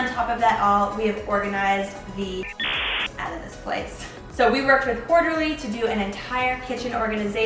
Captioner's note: beep